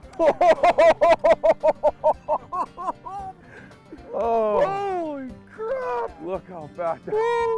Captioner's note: laughter